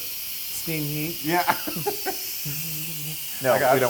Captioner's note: laugh